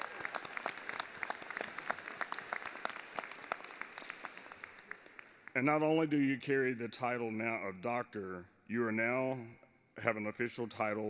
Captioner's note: applause